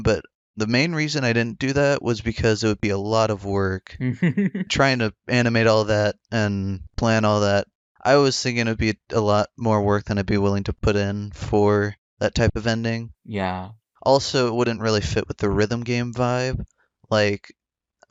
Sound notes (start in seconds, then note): 4.0 laughs